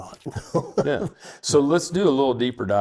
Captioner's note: laughs